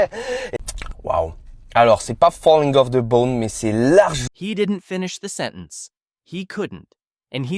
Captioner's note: speaking French